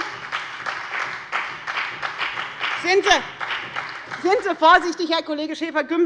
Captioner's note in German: Beifall bei der FDP und der SPD